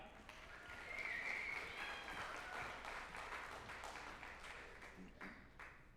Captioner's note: group applauding and cheering